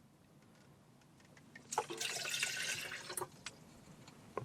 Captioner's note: water pouring